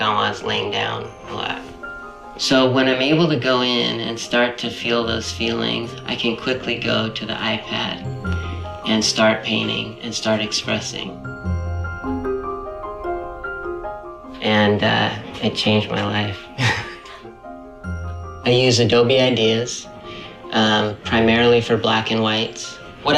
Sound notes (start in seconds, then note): 11.4 eerie music; 16.6 laughs